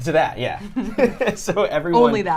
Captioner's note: both laughing